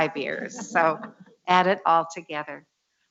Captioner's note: laughs